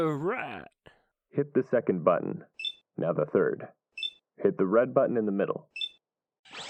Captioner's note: beep; robot sounds